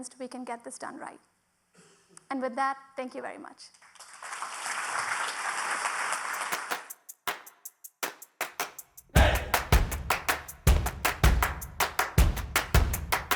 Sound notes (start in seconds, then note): 3.9 audience clapping; 8.1 upbeat music